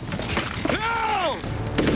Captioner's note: shouts